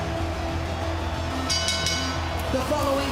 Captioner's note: bell rings